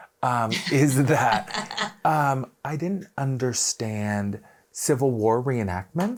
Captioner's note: laughing